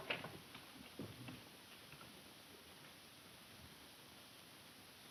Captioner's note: none